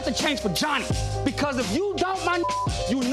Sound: beeps

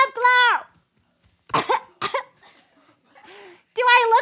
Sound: coughing

